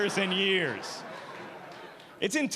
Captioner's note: audience laughing